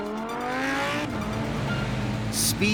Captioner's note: engines roaring